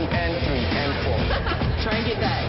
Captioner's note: laughs